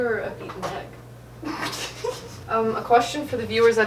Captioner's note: laughs